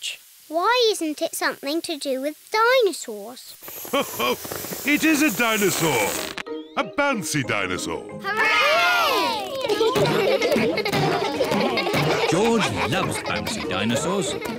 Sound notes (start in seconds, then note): 3.8 laughs; 8.4 kids laughing